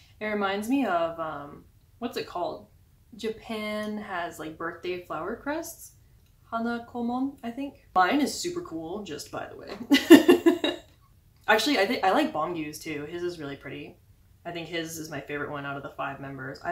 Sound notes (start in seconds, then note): 10.0 laughing